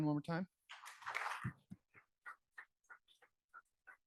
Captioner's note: applause